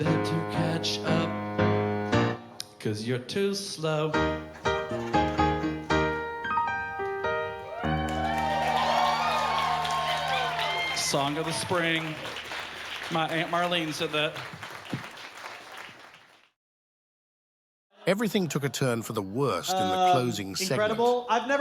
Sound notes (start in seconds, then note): 4.1 upbeat piano music; 8.5 crowd cheering